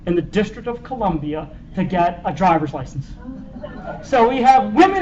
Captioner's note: laughter